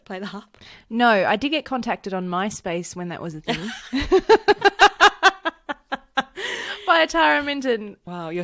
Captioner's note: laughs